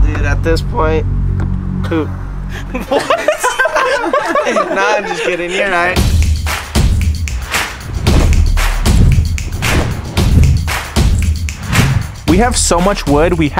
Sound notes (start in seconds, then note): 2.6 everyone laughing; 6.3 upbeat dramatic music